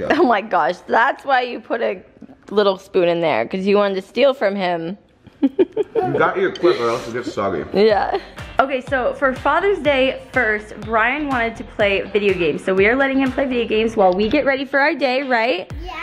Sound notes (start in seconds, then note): 5.3 laughs